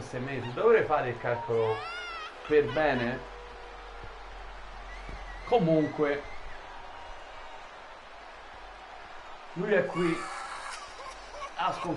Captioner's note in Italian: Applauso